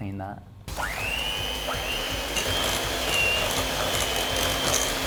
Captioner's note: whirring sounds